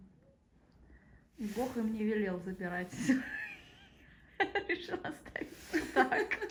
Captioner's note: laughter